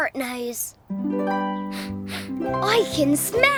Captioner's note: sniff